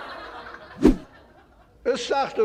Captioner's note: laughter